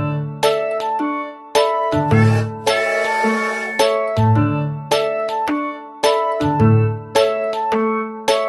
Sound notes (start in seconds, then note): 2.1 train whistle blowing